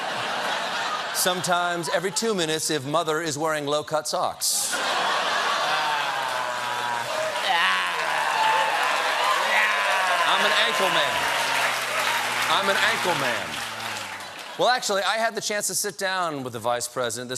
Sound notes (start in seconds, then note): 4.6 laughter; 5.7 applause